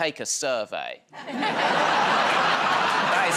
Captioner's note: laughter